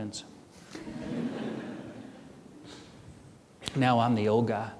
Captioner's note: audience chuckling